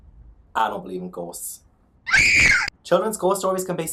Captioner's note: screams